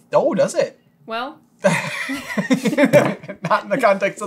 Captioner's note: laughter